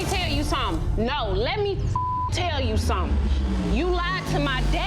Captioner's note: beep